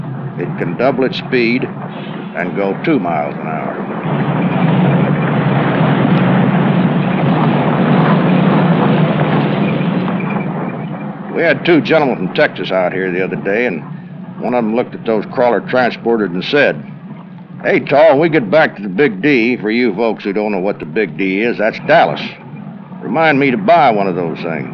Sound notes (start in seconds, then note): 3.8 engine and driving noise